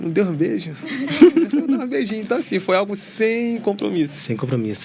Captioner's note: risadas